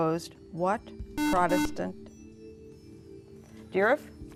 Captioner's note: buzzer